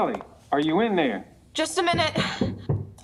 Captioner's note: knocking continues